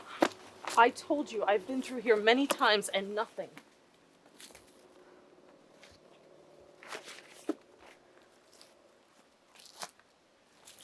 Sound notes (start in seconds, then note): 6.8 paper crinkling